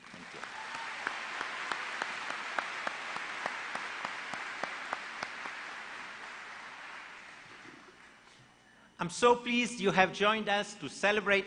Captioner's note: applause